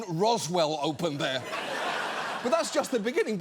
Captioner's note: audience laughs